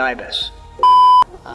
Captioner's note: beep Sound